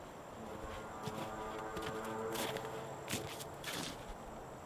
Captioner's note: horn blowing distantly